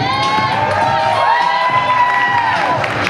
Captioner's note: applause and cheers